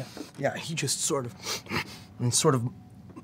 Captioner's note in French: renifle, souffle